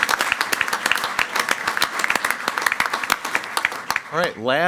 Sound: everyone applauding

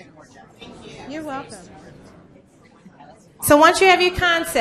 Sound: voiceover

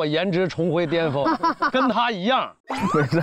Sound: laughing

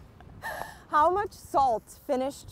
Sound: laughs

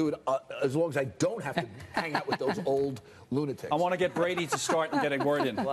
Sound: laughter

